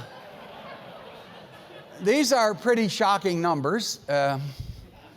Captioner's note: laugh